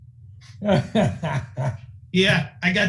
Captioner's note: laughing